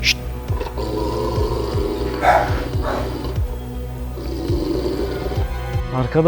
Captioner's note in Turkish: Hırlama sesi ve tansiyon müzik